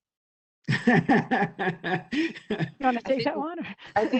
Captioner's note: laughs